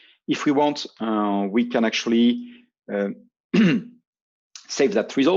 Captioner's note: clears throat